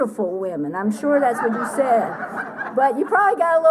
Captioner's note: laughter